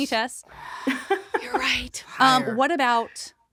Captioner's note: laughs